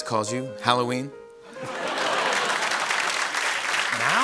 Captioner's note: laughter and applause